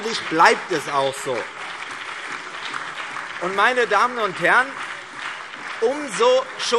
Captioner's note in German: Beifall CDU, BÜNDNIS 90/DIE GRÜNEN, SPD und DIE LINKE